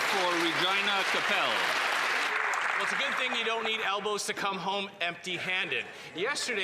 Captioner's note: applause